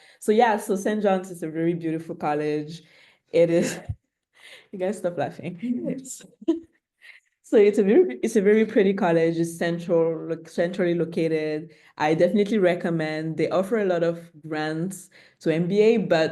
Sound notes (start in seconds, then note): 3.6 chuckles; 6.3 chuckles